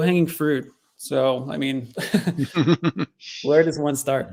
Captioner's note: both chuckle